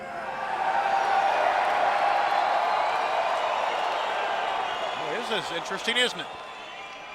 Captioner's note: crowd cheering